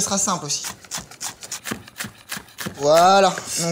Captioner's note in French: bruit d'échalote coupée